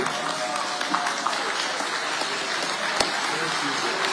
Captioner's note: audience applauding